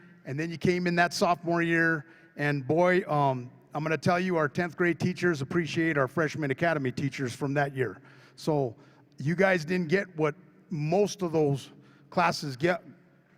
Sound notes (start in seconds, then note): none